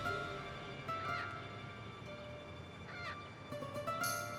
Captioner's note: suspenseful orchestral string music; crow cawing